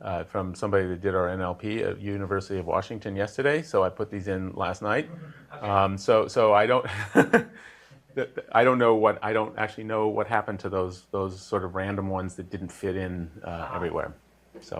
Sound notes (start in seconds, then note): 5.0 laugh